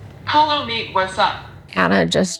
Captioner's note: iPad Speaker